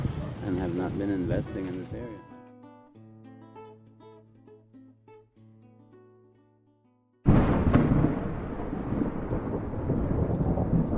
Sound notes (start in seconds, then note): 7.2 thundering